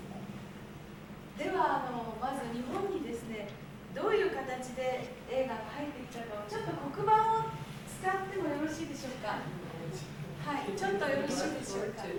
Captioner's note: speaking Japanes